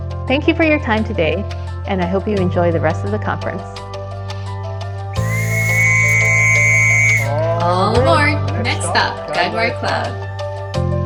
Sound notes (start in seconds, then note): 5.1 whistles